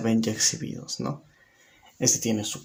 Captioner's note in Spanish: Silencio